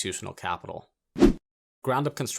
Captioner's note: air whooshing